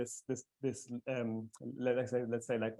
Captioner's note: stammering